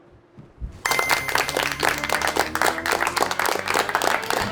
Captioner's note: audience applauds